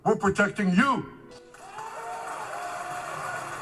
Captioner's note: clapping